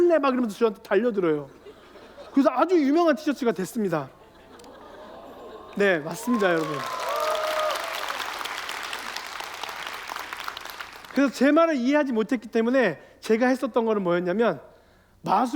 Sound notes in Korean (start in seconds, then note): 1.4 웃음; 6.1 감탄; 9.0 박수와 환호